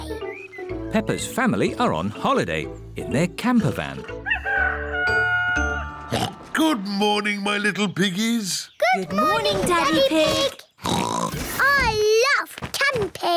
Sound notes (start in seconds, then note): 3.7 daddy pig oinks; 4.2 rooster crowing; 10.8 oinks